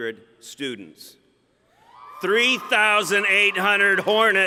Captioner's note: cheering